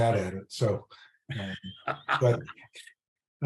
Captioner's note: laughing